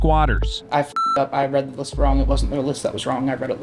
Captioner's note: beep